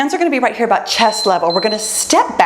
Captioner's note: timer beeps